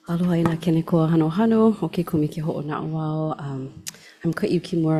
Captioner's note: speaking Hawaiian